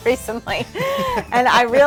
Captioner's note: laughs